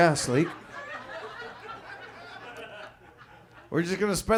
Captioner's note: audience laughs